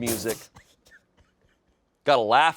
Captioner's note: crew laughs